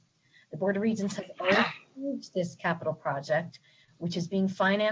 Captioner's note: distorted sound